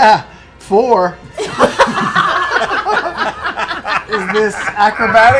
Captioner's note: laughter